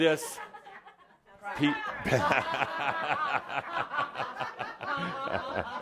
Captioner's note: laughter